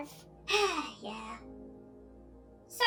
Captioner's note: sigh